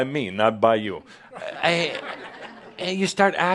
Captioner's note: more chuckles